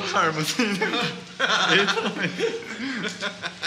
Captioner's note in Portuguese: risada